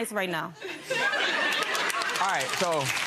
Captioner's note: audience laughing; clapping